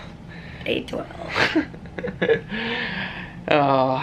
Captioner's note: chuckling